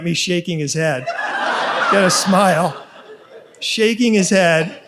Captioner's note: audience laughs